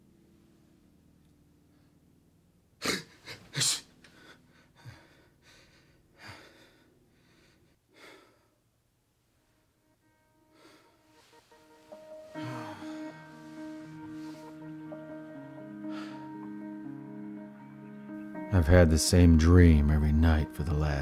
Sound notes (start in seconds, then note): 1.2 wakes panting